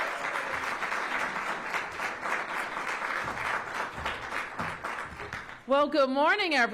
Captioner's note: applause